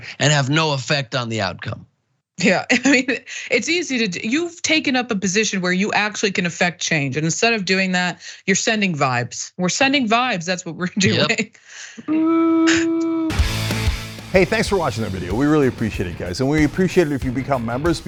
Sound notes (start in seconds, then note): 3.0 laugh